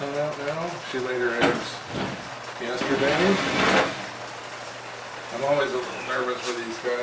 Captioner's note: sound of Rain hitting the skylights